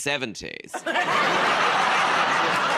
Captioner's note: laughter